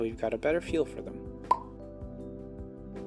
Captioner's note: pop